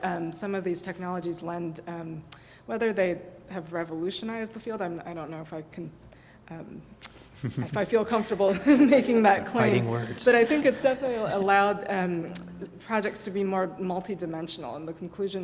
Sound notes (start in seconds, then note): 7.4 laugh